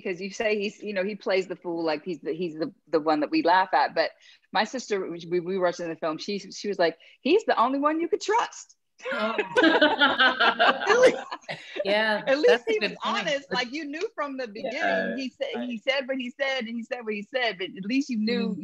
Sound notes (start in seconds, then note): 9.0 laughter